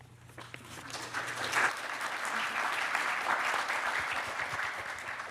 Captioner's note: audience applauding